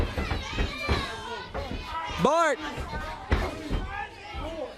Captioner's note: crowd cheering